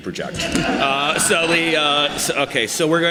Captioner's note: audience laughs